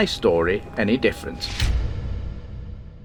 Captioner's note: sound FX